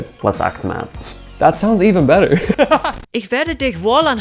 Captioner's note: laughing